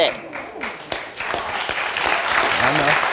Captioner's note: audience applauds